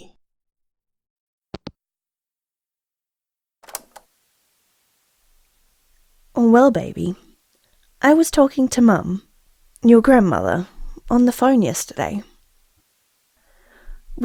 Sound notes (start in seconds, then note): 1.4 hangup; 3.6 cassette noise; 6.7 calm, thoughtful